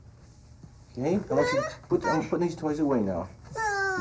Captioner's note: child crying